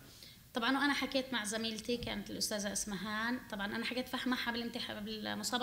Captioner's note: speaking arabic